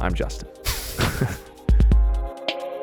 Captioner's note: both chuckling; soft upbeat music